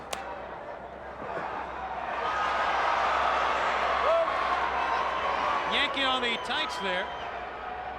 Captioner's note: crowd cheering